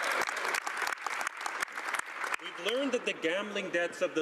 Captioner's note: speaking French